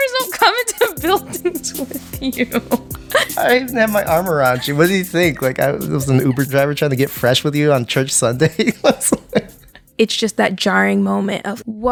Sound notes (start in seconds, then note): 2.9 laughs; 9.5 laughs